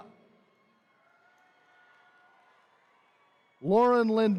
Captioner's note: attendees cheering